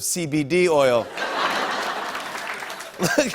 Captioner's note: laughter and applause; chuckling